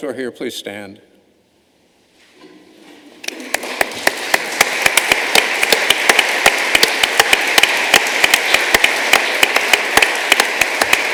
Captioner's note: applause